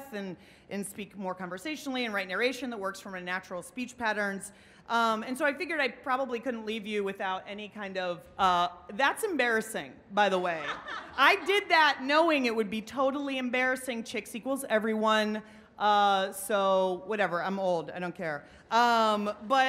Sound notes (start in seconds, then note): 10.6 laughing